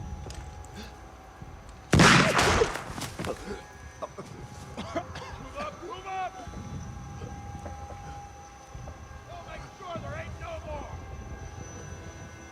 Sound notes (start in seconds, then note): 1.9 gunshot booms; 3.3 soldier gasping; 3.6 ethereal music